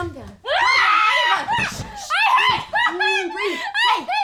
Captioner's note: screams